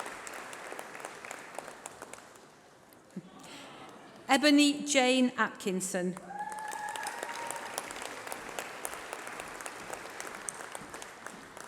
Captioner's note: applause